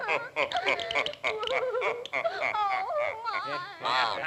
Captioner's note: crying; teeth clicking; Sinbad laughing